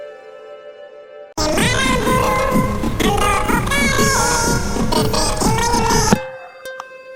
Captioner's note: phone ringing